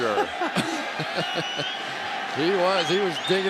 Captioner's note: laughter